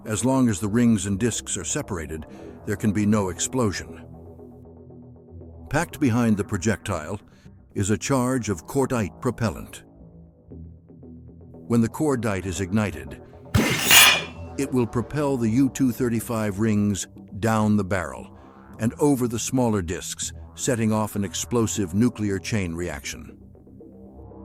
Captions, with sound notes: As long as the rings and discs are separated, there can be no explosion. Packed behind the projectile is a charge of cordite propellant. When the cordite is ignited [small explosion, metal slams into metal] it will propel the U-235 rings down the barrel and over the smaller discs, setting of an explosive nuclear chain reaction.